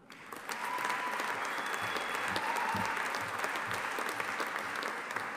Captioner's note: audience applauding and cheering